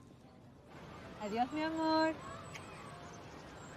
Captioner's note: speaking Spanish